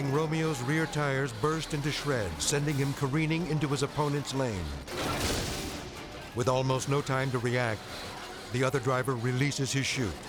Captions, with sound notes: Without warning, Romeo's rear tires burst into shreds, sending him careening into his opponent's lane. (fuel tank explodes) With almost no time to react, the other driver releases his chute,